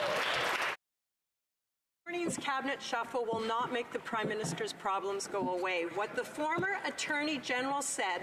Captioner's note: some Applause